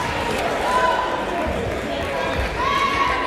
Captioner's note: yelling